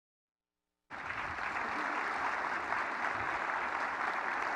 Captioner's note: audience applause